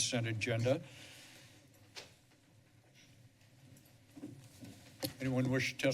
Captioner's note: pause